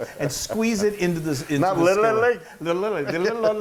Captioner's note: laugh